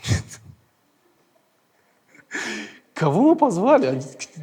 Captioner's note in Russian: смеется